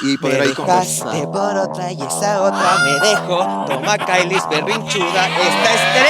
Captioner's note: humming to the tune